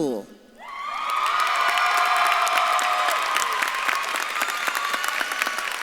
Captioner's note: audience claps and cheers